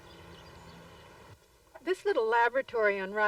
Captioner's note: birdsong